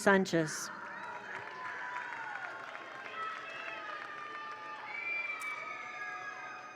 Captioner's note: attendees cheer; attendees applaud